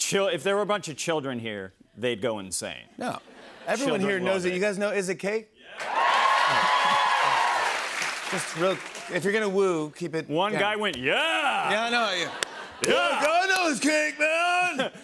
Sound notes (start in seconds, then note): 5.7 cheers and applause